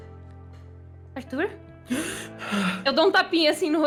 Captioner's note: deep breath